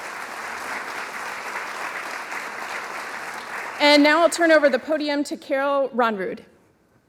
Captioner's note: applause